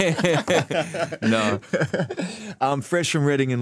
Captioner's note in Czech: smích